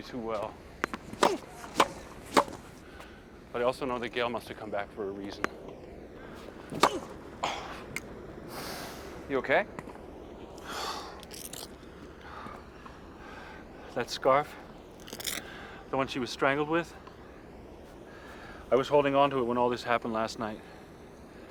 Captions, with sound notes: (popping) But I also know that Gail must have come back from a reason. (popping) (Marty exhales) - You okay? - That scarf? The one she was strangled with? I was holding onto it when all this happened last night.